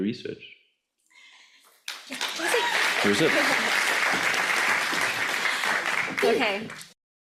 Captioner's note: audience applauds